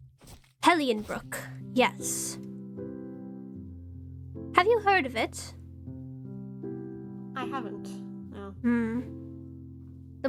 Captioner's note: ROSE hums